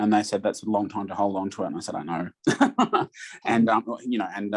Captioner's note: laughs